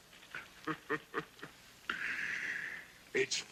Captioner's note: laughing